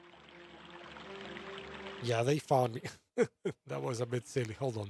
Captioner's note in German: lacht